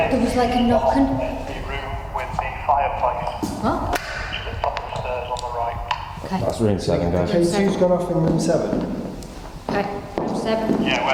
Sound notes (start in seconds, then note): 2.1 voices over the radio